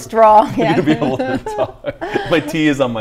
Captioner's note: laughter